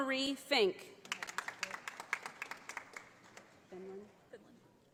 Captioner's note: audience applauding